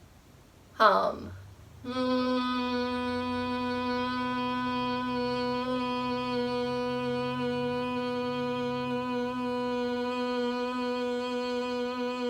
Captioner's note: exhale humming bee sound